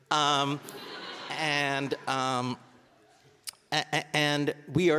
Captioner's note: audience laughing